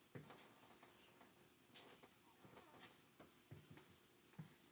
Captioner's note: footsteps tapping